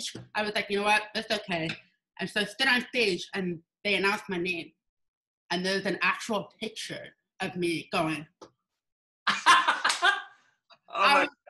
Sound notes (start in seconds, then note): 9.2 laughs